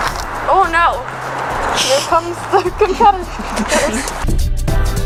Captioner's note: Pie laughing in the background